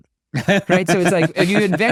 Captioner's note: laughing